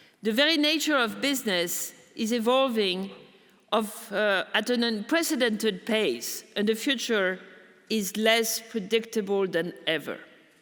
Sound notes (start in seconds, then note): none